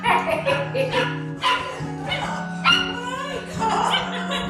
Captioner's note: all laugh